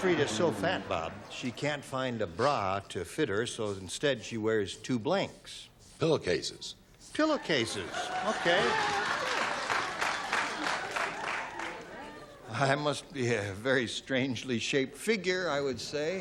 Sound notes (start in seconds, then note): 9.7 applause